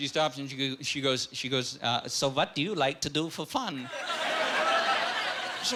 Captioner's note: eastern-European accent